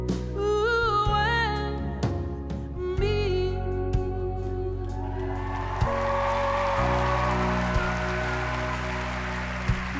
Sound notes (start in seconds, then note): 5.0 crowd applauding